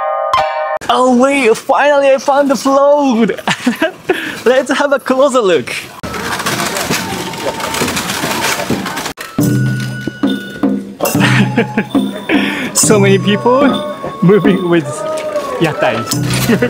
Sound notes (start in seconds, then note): 0.0 kane bells clang rhymically; 3.2 laughs; 9.1 festival music; 11.0 laughs